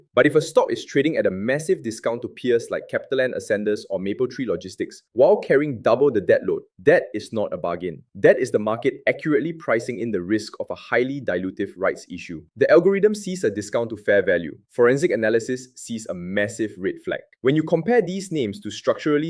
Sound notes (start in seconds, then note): 8.7 sarcastic